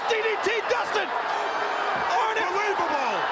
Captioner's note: crowd cheering